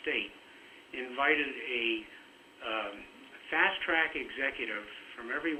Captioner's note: broken audio